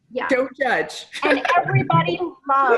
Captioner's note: laughs